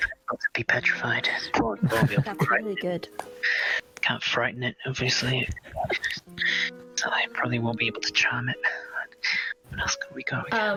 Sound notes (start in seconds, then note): 5.3 laughter; 8.9 sigh